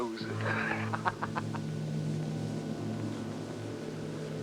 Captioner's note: laughs